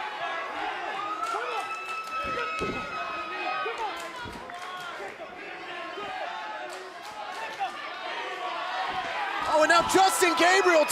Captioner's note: fans chanting